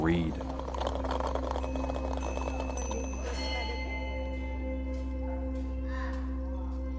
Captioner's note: gentle music; bell ringing